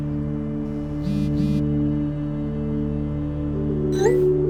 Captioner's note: phone vibrates